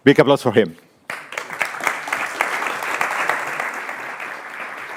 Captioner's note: audience applauding